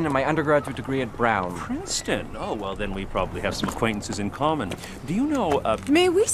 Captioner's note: none